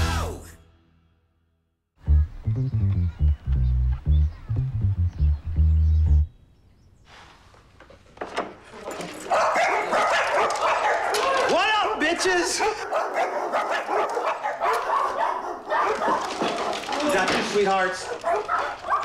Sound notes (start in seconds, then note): 7.6 dogs barking; 13.2 dogs barking loudly